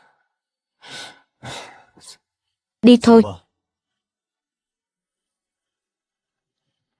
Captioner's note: thở dài